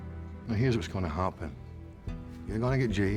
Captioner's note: scottish accent